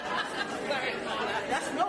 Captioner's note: laughter